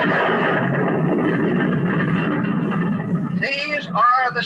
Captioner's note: explosion